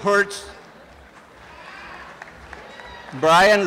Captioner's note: applause and cheering